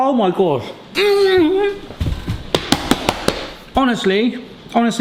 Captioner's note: slaps counter